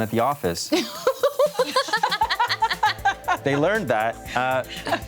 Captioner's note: everyone laughs